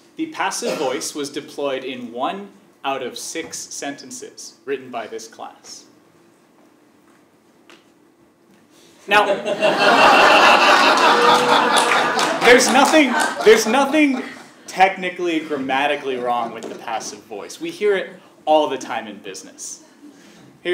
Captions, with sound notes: The passive voice was deployed in one out of six sentences written by this class. Now- >> [LAUGH] >> There's nothing technically grammatically wrong with the passive voice. We hear it all the time in business.